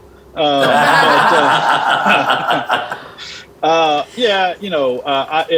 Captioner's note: laughing